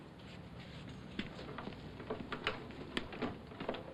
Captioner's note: door unlocking